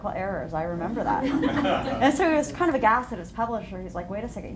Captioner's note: laughter